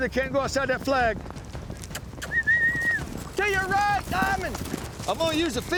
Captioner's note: whistling